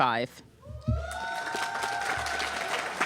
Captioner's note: applause